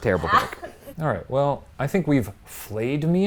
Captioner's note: laughs